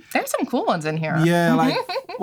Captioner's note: laughter